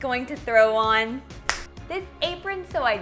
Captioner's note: finger snap